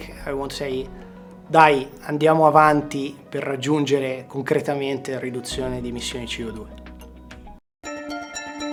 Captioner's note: in Italian